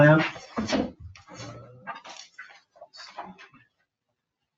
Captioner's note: papers rustling